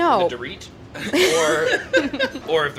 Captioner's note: laughing